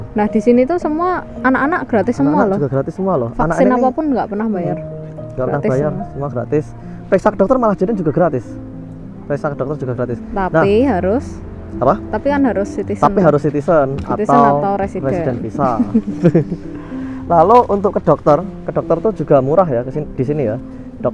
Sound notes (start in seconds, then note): 15.6 chuckles